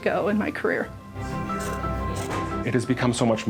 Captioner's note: scissors cutting